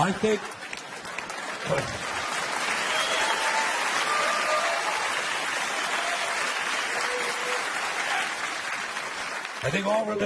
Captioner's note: audience applauding